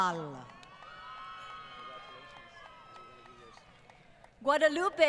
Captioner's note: applause